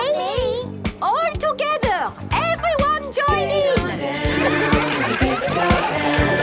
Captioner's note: laughter